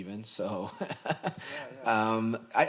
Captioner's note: laughs